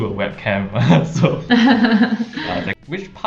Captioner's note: both laughing